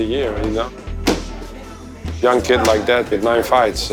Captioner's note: strikes landing with a thud